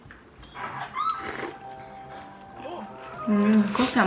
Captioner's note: slurping the curry noodles